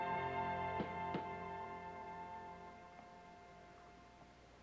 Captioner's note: knock at door